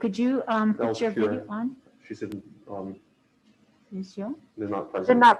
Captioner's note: speaking faintly